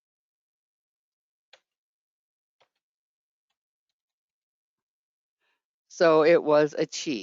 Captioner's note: 5 seconds pause